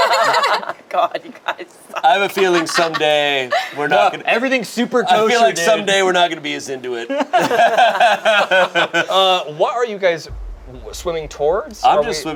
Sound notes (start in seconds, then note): 0.0 group laughs; 7.1 group laughs